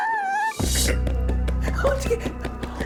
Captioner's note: sound of tapping out